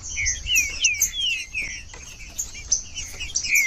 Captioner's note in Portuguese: trinca ferro cantando